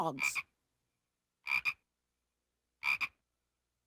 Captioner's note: frogs croak